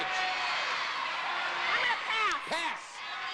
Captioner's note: audience cheering